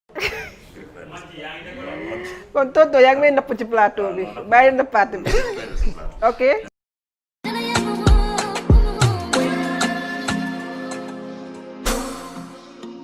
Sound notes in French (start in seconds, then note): 0.1 Rires